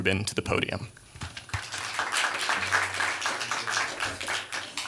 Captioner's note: applause